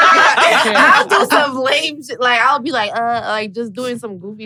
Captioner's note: everyone laughs; groans